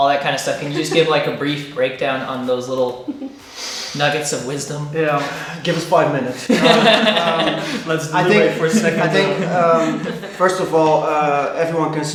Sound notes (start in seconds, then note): 0.5 laughing; 2.7 chuckling; 6.3 laughing